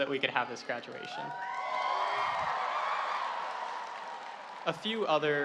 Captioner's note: audience cheering